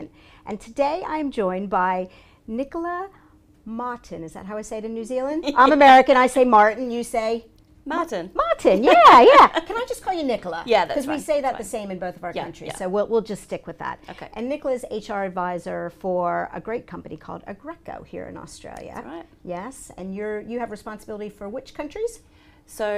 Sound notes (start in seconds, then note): 8.8 laughs